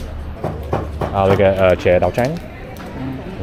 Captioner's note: speaking Vietnamese